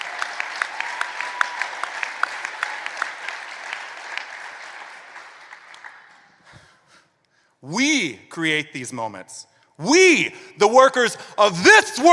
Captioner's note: applause